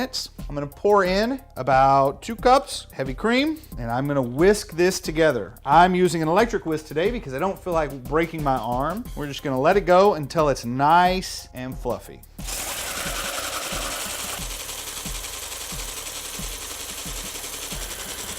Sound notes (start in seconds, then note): 12.4 whisk whirring